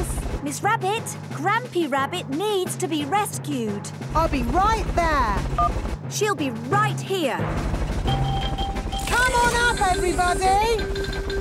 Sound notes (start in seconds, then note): 5.2 phone beeps; 7.4 distant helicopter noise